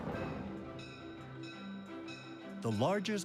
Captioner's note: bell dinging